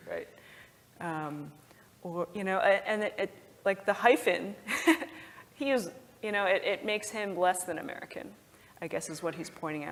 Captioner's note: laugh